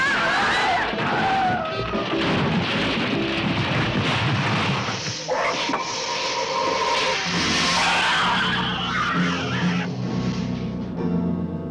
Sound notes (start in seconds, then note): 0.0 screaming; 0.7 car crashing; 5.4 roaring; 7.7 suspenseful orchestral music